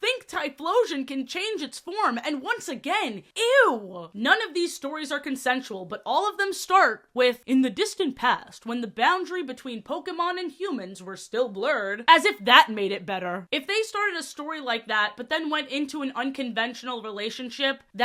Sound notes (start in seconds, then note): none